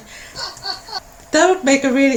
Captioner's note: laughter